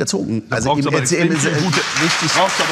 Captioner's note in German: Applaus